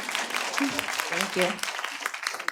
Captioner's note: audience applauding